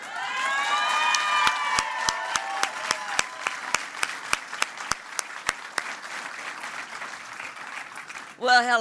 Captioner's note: applause